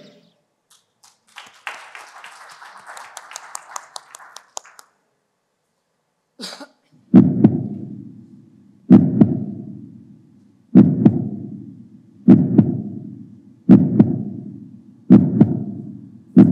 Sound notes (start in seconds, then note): 0.7 applause; 7.4 heart rhythm sound